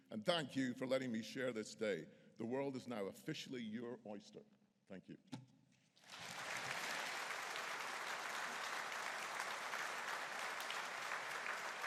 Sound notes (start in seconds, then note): 6.0 audience applauding